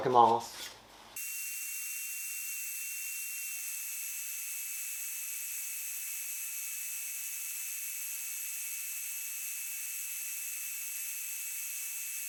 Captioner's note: working sound